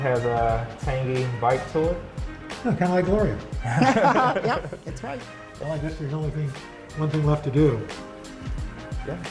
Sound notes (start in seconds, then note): 3.6 laughter